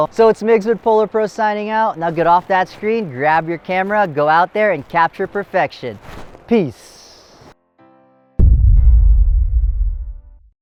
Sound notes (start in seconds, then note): 8.4 dramatic thud